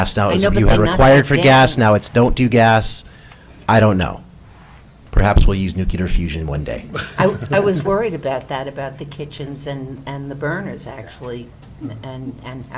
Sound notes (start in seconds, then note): 6.9 laughter